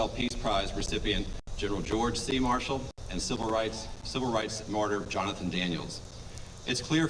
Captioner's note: none